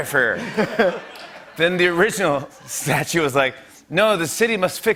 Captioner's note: laughter